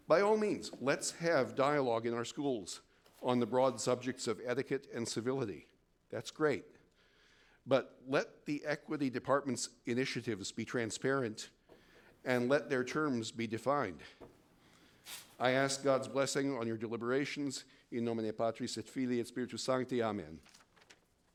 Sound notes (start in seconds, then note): 18.0 speaks foreign language